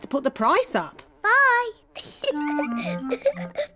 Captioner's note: giggles